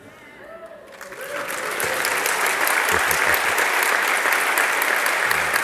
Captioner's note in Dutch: luid applaus en gejuich